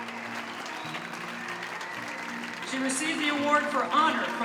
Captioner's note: applause